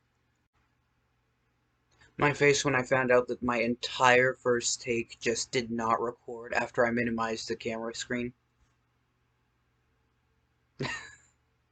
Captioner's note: laughs